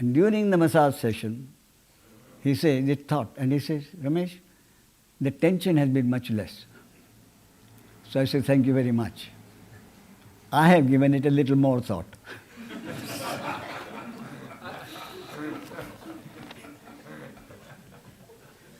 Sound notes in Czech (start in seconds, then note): 15.5 smích